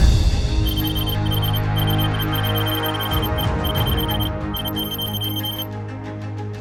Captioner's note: beeping